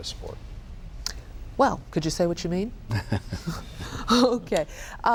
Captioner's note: chuckles